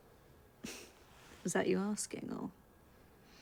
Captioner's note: chuckles